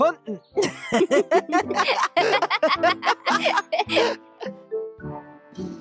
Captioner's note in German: Gelächter